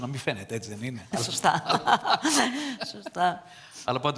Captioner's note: laughter from both